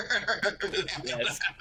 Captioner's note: laughing